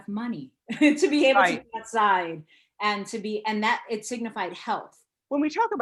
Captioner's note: laughs